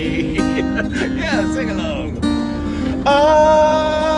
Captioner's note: laughs